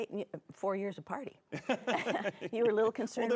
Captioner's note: laughing